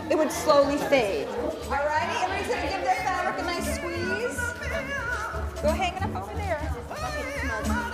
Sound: classroom noise

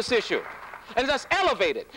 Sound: applause

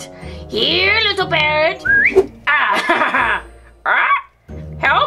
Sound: whistles; squawks

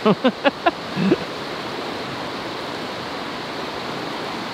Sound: airplane sound effect; laughing

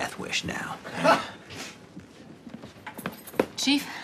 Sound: person laughs

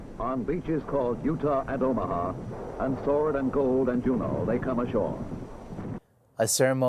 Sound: explosion

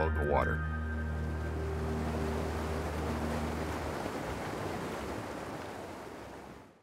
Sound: rushing water

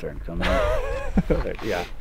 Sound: laughing

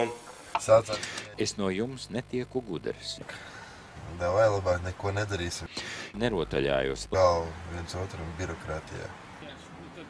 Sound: cursing

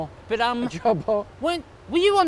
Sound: laughs

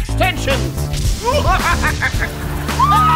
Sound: maniacal laughing

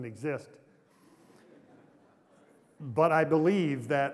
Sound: laughter

